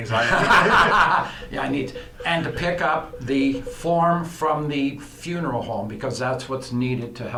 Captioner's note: laughs